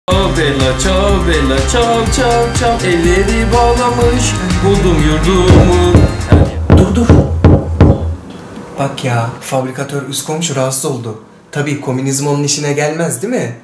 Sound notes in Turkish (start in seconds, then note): 5.4 Vurma sesi